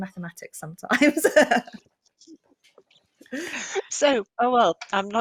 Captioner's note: laughs